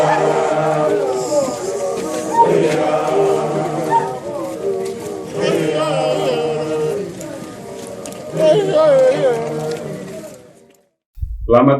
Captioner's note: people chanting